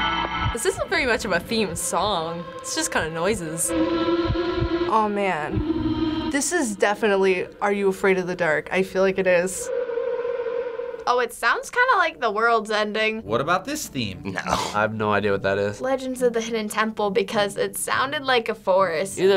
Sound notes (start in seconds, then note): 8.7 eerie waver